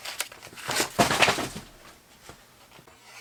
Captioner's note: packages hitting the floor